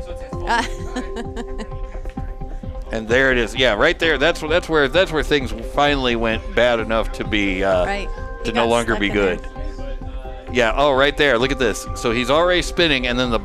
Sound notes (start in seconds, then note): 0.5 laughing